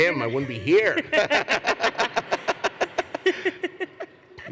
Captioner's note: luaghter